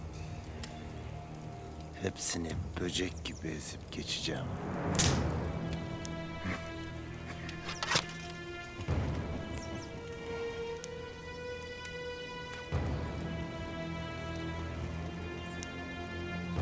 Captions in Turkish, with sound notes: Hepsini böcek gibi ezip geçeceğim. (Dal kırılma sesi) (Müzik - Gerilim)